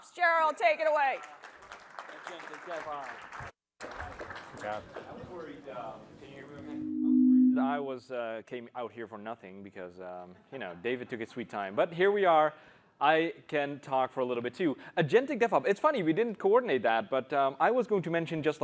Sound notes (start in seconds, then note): 2.6 applause